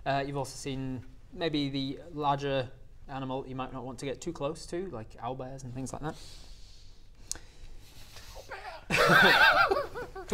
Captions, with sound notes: you've also seen maybe the larger animal that you might not want to get too close to like owlbears and things like that [frantic whisper] Owlbear!